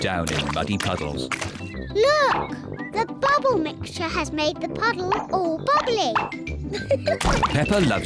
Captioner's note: laughs